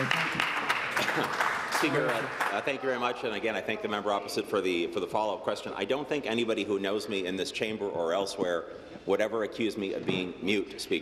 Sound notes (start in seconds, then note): 4.2 applause